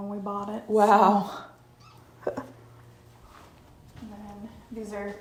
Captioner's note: chuckles